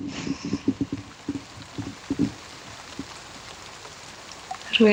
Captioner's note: rain